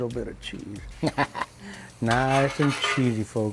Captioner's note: laughs